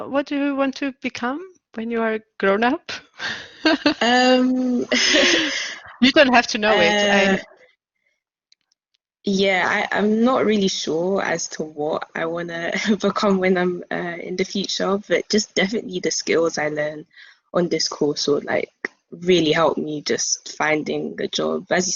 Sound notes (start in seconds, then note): 3.2 laughs loudly